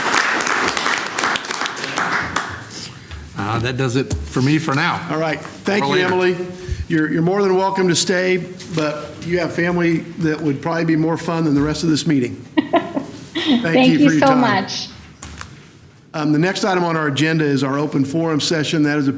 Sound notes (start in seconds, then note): 0.0 applause